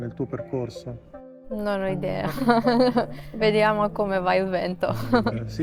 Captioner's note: laughs